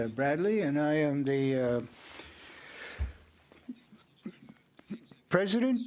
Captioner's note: speaking French